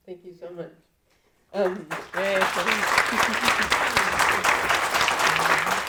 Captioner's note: audience applauding